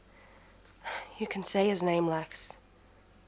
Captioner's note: sighs